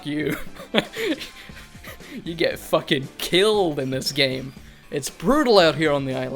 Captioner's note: laughing